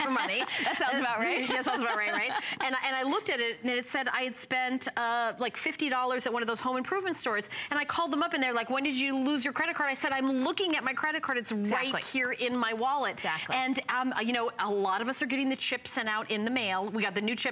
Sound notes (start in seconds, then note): 3.3 laughter